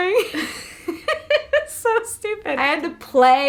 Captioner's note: laughs